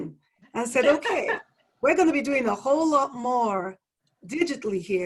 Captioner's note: laugh